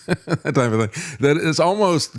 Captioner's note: laughs